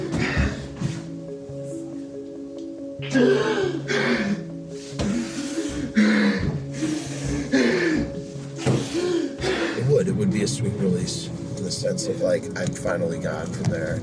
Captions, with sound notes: [Dramatic, labored breathing] It would. It would be a sweet release in the sense of like I finally got to there.